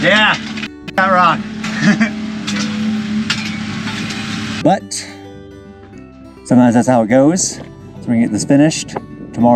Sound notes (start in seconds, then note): 1.7 laughs